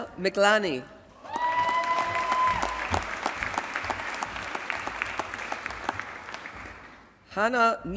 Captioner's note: applause